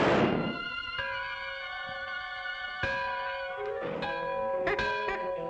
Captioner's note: gunshot; bell pealing